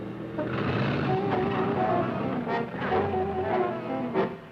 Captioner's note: engines revving